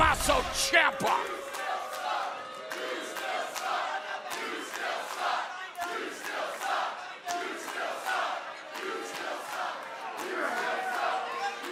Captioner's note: crowd cheering